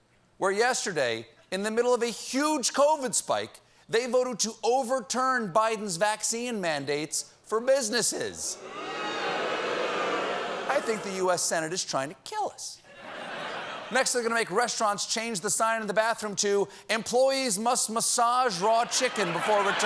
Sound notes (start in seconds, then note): 11.2 booing